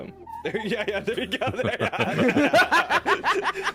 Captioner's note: giggling